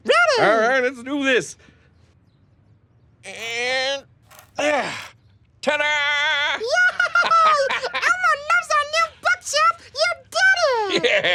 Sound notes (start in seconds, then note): 4.5 grunts; 7.3 laughs